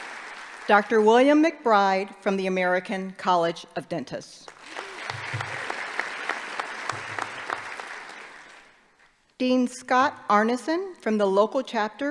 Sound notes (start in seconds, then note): 4.4 applause